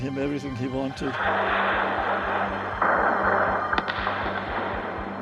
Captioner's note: explosions